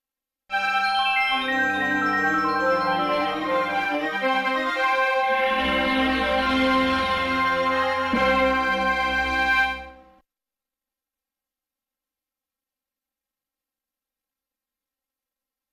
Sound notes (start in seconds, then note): 0.6 32-bit console startup music; 11.5 silence